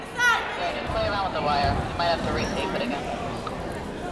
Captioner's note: chattering